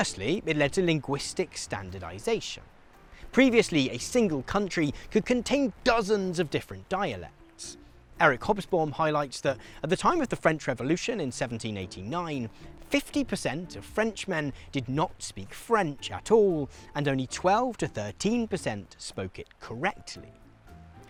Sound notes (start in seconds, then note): 15.3 French